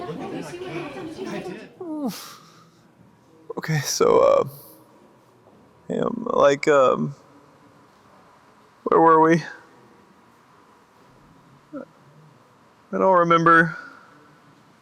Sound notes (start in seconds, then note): 3.5 crying